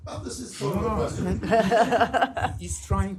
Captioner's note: laughter